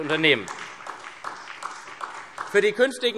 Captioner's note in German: Beifall SPD